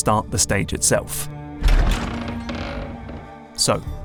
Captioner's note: creaky wooden door opens